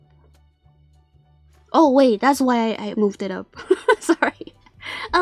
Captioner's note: laugh